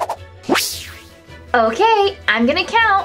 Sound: whoosh; fast comical whooshes

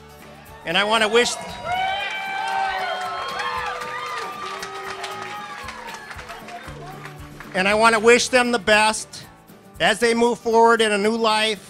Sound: applause

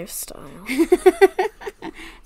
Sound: laughs

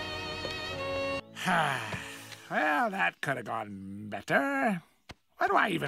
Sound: sighs

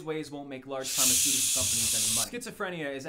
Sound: shushing

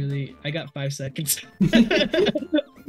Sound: laughs

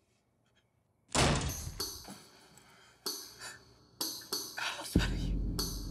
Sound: door banging open

